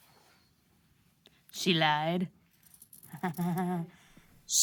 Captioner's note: whispers